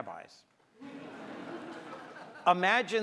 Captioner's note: audience laughs